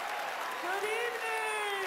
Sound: cheering, applause

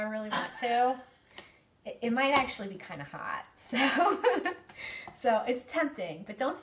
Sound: laughs

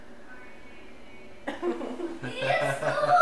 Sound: laughs

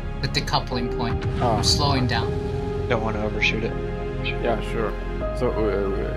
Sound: on the radio

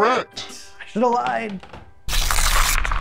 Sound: cards smacking; whiteboards tapping; paper ripping

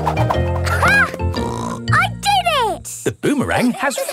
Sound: snorts

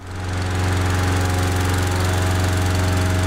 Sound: rattling of a compressor

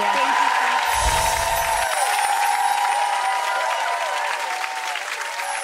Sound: audience cheering and clapping

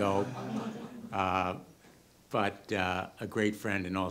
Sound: audience laughter

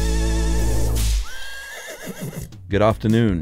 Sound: whip cracks and horse whinnies

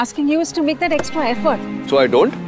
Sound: car door opens

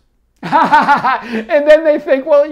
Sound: laughs

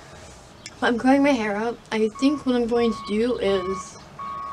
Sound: more tractor beeping

